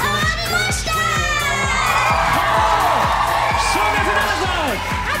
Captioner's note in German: Applaus, Jubel